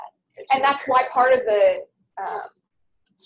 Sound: voiceover

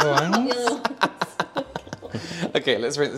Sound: manical Laughter

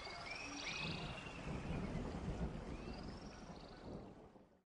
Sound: thunder echoing

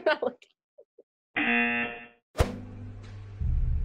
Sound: buzzer rings

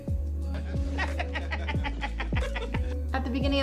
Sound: laughs

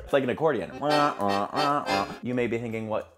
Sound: mimics accordion sounds

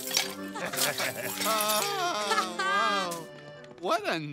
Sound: patrons laughing

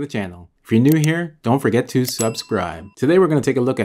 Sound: bell ringing

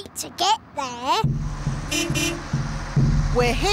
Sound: horn beeps

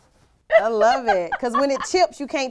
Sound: laughs

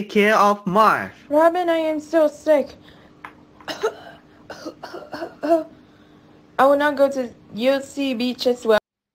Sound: coughing Sounds

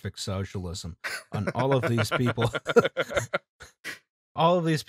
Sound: laughter

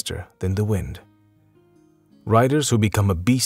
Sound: small pause

